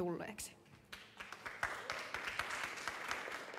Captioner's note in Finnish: Aplodeja